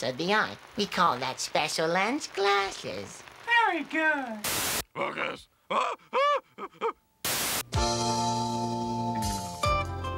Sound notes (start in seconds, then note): 5.8 chatters; 7.6 slow-tempo music plays